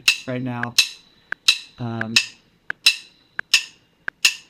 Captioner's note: drumsticks clacking